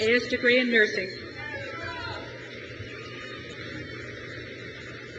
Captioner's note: crowd cheers